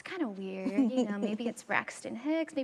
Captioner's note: chuckles